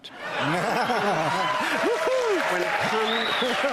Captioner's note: laughter